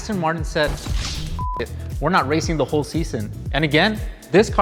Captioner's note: beep